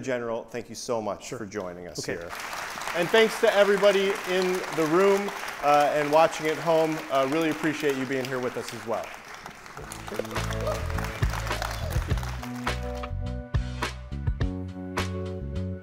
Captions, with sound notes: - Attorney General, thank you so much for joining us here. (audience applauds) And thanks to everybody in the room and watching at home. Really appreciate you being here with us as well. (upbeat music)